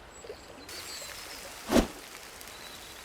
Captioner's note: sizzling